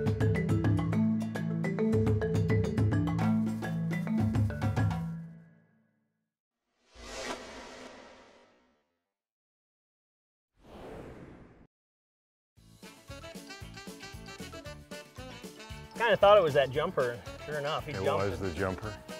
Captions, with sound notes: (Swish sounds) (comedic music) - Kind of thought it was that jumper. Sure enough. - He jumped. - It was The Jumper.